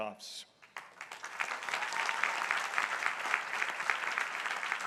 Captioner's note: crowd applauding